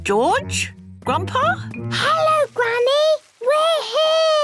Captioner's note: Peppa whispering